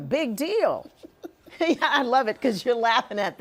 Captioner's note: laughing